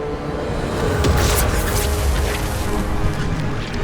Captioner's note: loud zapping